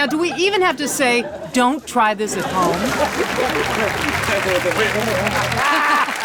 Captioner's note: audience applauding; laughing